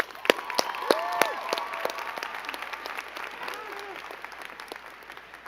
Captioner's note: crowd cheering and clapping